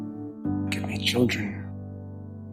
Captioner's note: voiceover